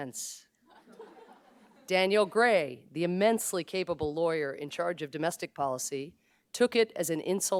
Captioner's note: laughter